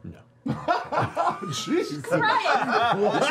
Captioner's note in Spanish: risas